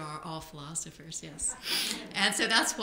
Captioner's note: laughter